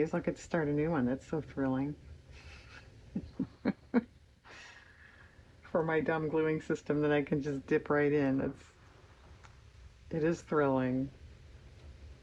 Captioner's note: laughs